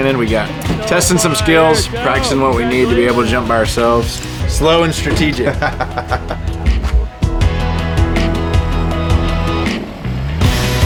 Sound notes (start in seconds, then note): 6.1 laughs; 7.7 intense pop music